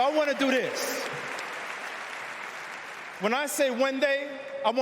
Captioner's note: cheers and applause